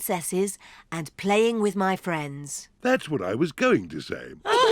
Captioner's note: all giggle